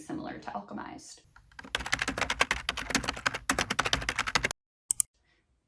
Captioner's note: keyboard tying sound